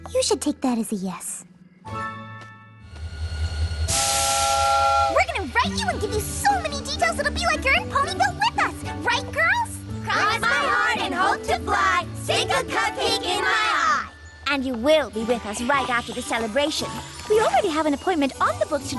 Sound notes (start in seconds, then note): 3.8 train whistle